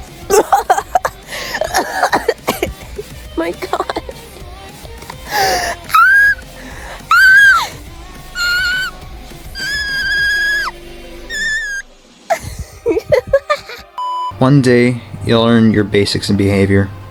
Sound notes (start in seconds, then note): 1.2 Miss Circle inhales; 5.1 miss circle squeals; 6.4 Miss Circle inhales; 7.2 miss circle squeals again; 12.2 Miss Circle laughs embarrassedly